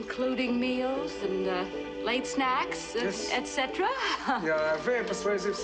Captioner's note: laughs